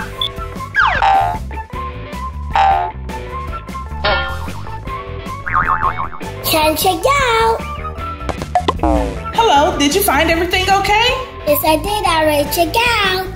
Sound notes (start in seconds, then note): 0.2 boing sounds; 8.3 bounce noise; 13.1 upbeat playful music